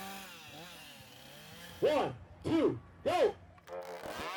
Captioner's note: chainsaw whirrs